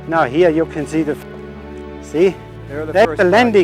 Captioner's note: chatter